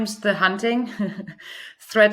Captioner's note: chuckles